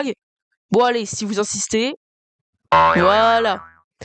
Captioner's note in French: boinggg